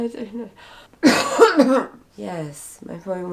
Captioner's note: coughing